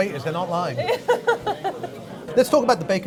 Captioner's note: woman laughs